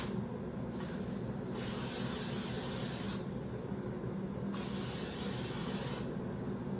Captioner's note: can spraying